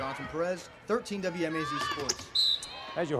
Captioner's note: whistle blows